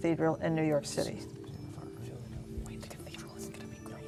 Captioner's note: whispering